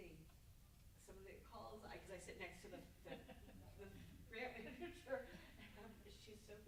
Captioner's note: stammers